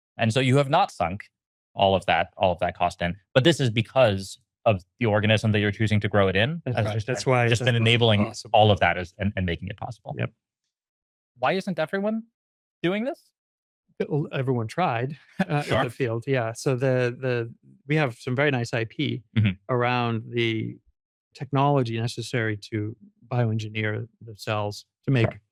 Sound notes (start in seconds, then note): 15.0 laughs